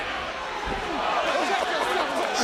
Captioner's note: wrestlers chattering; crowd gasping; crowd chattering